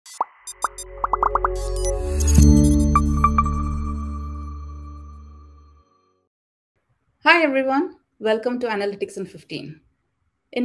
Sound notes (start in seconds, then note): 0.1 graphics popping; 0.4 tranquil music